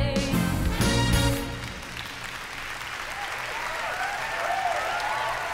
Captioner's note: cheering, applause